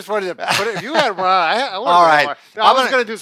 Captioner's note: laughing